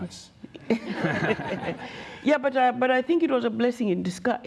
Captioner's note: laughter